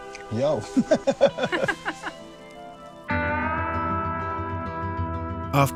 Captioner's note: laugh